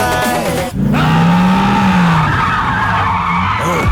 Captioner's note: man Screams